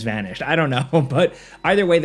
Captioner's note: laughs